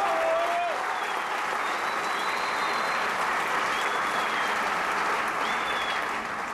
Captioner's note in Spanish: Aplausos